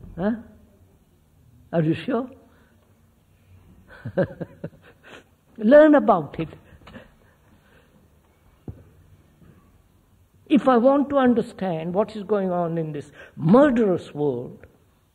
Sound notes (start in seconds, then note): 3.9 laughs